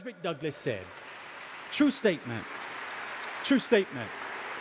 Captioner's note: audience applauding